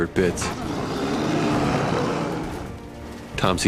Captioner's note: snarling